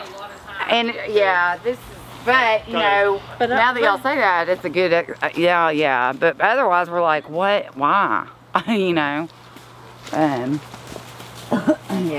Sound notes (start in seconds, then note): 5.2 stammers; 8.6 chuckles